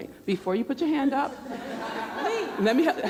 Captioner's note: laughter